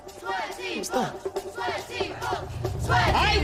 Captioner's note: crowd chanting